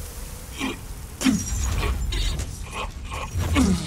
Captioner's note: groans weakly